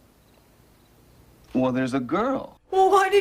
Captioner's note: happily